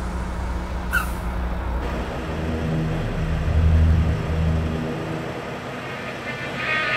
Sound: truck breaks squeaking; ominous music; metal music

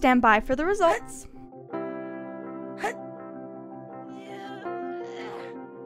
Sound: struggling Mooshie noises

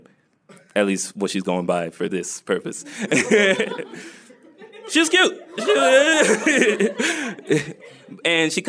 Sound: laughter

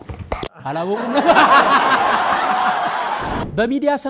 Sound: laughter

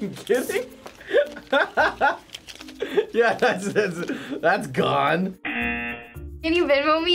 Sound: both laugh; laughs; buzzer

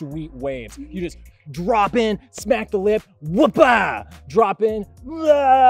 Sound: yells

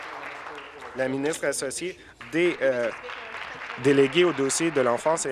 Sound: applause

